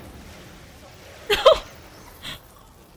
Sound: crying

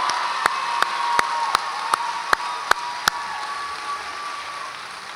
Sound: audience applauds and cheers

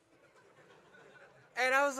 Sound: audience laugh

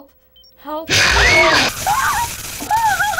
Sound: abrupt shrieking; whimpering

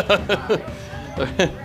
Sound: laughing

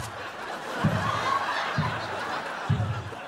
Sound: laughing

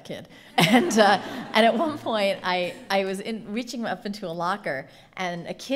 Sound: laughing

